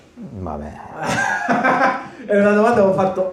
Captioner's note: laughs